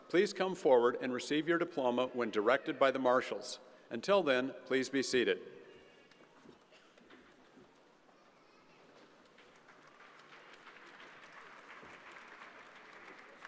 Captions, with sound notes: Please come forward and receive your diploma when directed by the Marshals. Until then, please be seated. (crowd applauds)